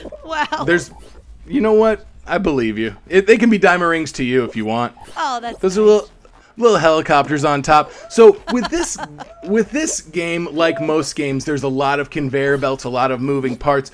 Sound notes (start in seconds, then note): 8.0 laughing